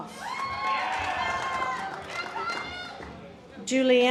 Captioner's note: audience applause